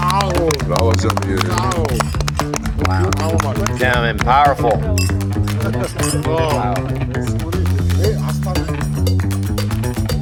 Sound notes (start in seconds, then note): 0.0 laughing; 0.0 people cheering; 0.3 speaking in a foreign language; 5.2 glasses clinking; 5.2 people chattering; 6.6 lively cheerful music